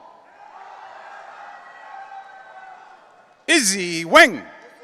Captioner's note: audience cheering